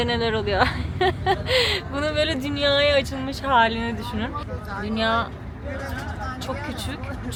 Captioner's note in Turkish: kahkaha